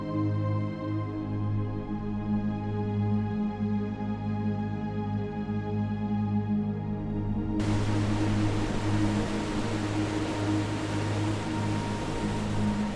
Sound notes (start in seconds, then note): 7.6 waves crashing